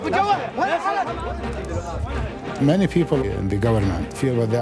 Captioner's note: men shouting